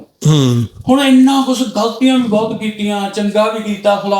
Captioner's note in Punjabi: ਗਲਾ ਸਾਫ਼ ਕਰਨ ਦੀ ਅਵਾਜ਼